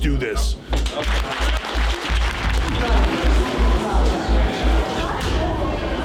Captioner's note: applause